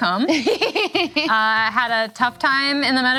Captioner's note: laughing